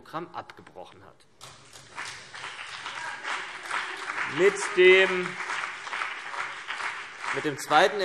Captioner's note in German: Beifall CDU und BÜNDNIS 90/DIE GRÜNEN - Zuruf SPD